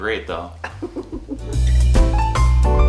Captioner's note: laughter; cute upbeat music